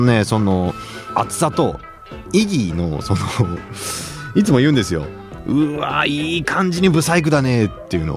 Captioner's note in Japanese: 鼻息